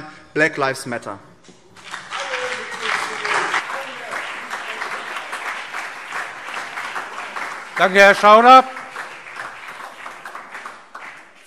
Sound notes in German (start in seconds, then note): 1.7 Beifall BÜNDNIS 90/DIE GRÜNEN, CDU, SPD und DIE LINKE